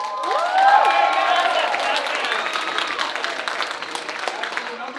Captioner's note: audience applauding